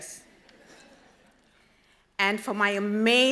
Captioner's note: audience laughs